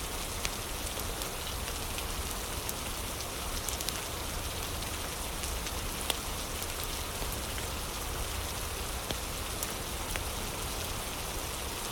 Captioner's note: fire crackling